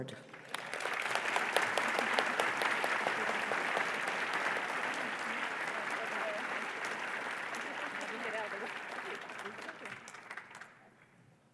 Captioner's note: applause